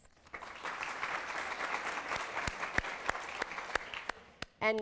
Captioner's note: applause